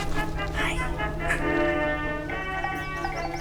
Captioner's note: whispering